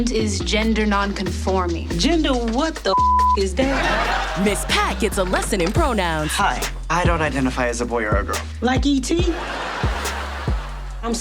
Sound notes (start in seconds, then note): 2.9 beep; 9.2 audience laughs